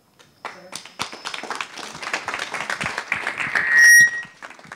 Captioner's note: audience applauding